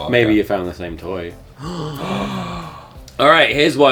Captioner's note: gasps